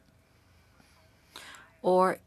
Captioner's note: speaking French